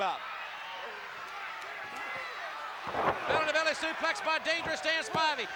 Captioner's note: applause